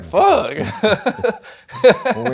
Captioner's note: laughs